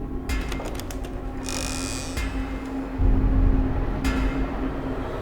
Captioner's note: door creaking